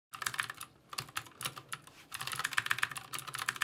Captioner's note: keyboard clicking